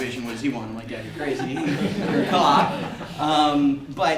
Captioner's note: audience members laugh